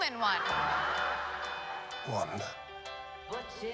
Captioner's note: crowd laughs